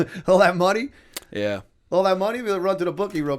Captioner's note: chuckle